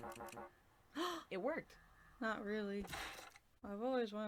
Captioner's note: gasp